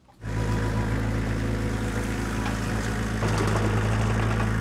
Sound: engine rumbles

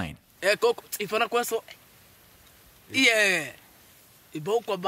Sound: speaking foreign language

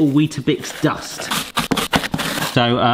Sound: crunching sounds

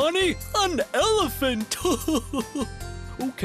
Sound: chuckles

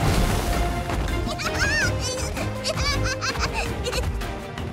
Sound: laughing

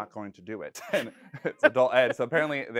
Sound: laughing

